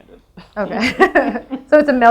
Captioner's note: laughs